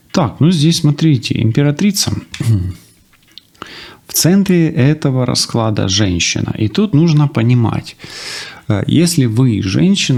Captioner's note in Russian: откашливается